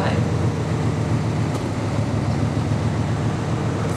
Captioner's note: loud engine noise fades in and out